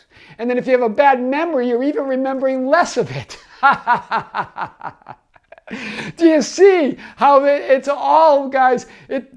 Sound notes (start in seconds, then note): 3.3 laughs